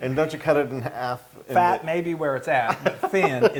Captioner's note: laugh